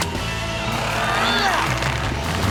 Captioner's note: grunting